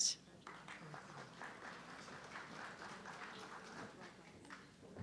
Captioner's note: audience clapping